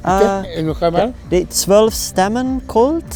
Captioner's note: builder speaking in foreign language